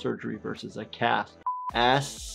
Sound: buzzer beeps

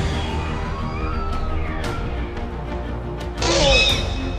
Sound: Raptor Squeals

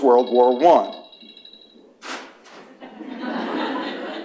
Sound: alarm ringing; laughter

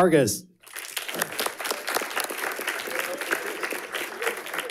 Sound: audience applauding

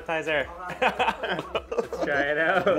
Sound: laughs

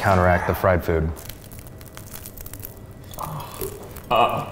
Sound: crunching

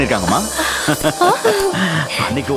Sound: laughs

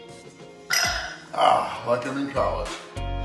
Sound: clinking

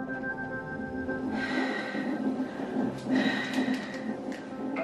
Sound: breathing

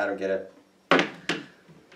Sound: object clatters on table

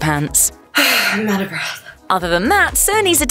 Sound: sigh

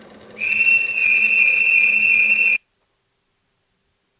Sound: alarm goes off

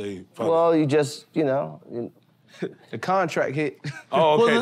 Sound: chuckles

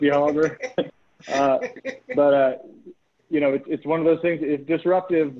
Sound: laughter

